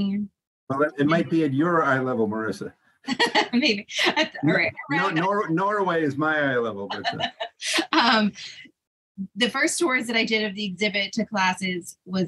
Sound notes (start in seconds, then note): 3.1 laughing